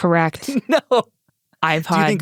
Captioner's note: laughs